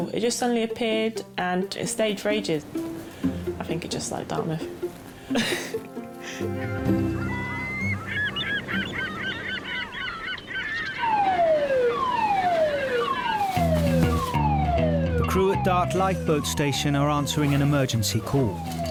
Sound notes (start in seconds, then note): 5.2 chuckles; 5.6 birds squawking; 6.9 gentle music; 11.5 alarm blaring